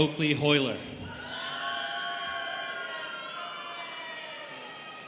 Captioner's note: students cheering